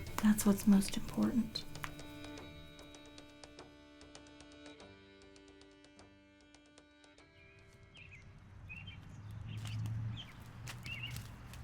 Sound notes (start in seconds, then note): 7.3 birds chirping